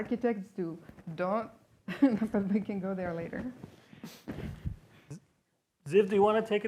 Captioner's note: laughs